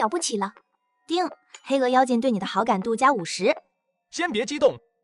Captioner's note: ding!